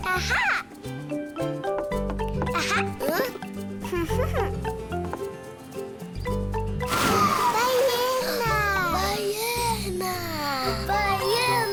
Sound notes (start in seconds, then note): 7.0 whale songs; 8.0 speaking foreign language